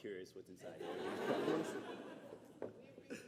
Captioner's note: laughter